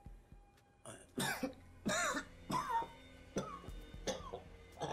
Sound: coughing

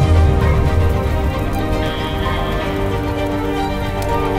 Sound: flames crackle

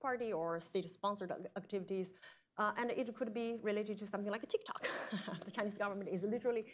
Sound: laughs

